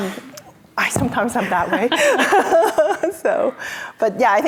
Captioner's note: laughs